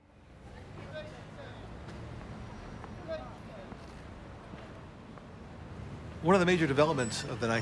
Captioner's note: distant chatter